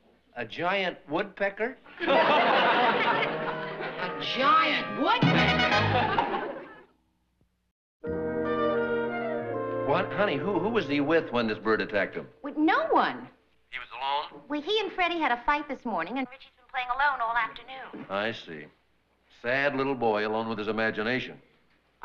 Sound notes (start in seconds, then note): 13.6 on phone